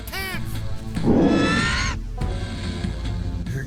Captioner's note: squeal